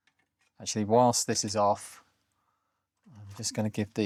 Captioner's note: silence